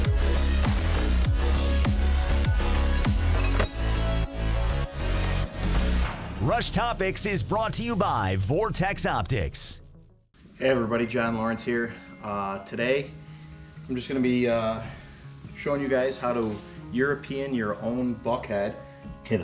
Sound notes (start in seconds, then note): 0.6 gun shot